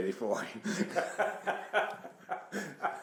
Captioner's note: laughing